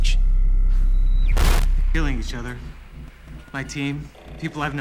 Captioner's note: static